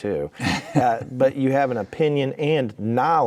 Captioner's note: laughing